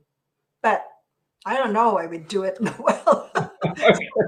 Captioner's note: laughs